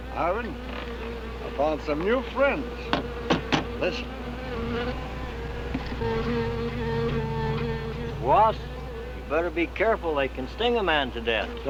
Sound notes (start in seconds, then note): 5.4 angry buzzing; 5.6 tapping